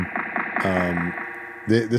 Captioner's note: audience applauding